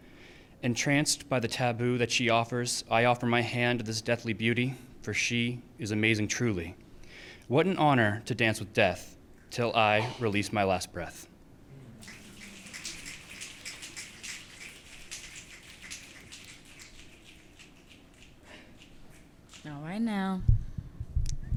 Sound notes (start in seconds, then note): 12.0 audience clicking